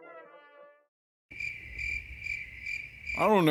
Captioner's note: sound of crickets